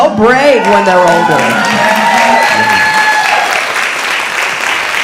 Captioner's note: audience applauding